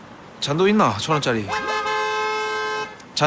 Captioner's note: honk